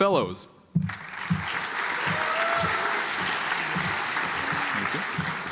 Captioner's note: audience applauds